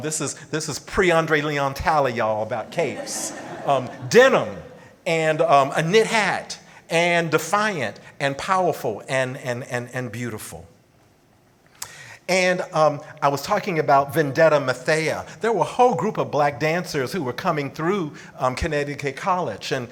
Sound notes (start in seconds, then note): 2.6 audience laughing